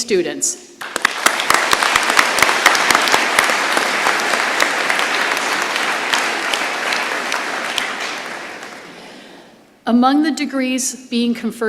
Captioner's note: applause